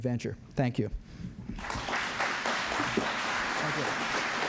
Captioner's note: applause